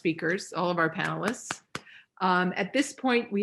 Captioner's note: claps